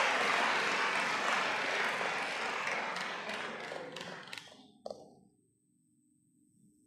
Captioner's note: applause